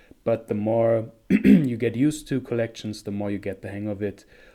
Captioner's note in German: räuspert sich